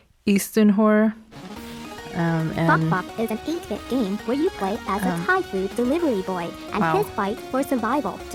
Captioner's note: synthetic voice